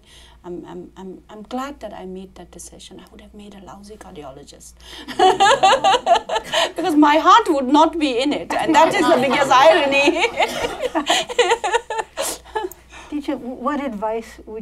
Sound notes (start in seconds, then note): 4.9 laughs; 10.2 laughter